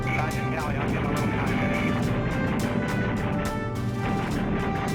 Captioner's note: radio chatter